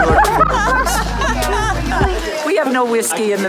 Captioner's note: laughter